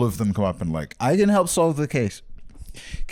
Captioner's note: drunkenly